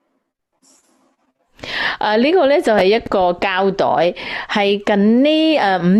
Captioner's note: storyteller in Cantonese